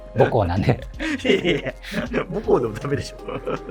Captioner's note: laughing